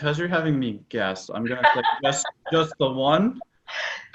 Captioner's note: laughs